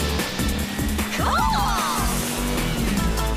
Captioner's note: screaming